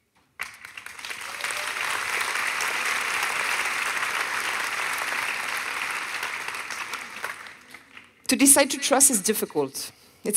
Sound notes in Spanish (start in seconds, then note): 0.3 Aplausos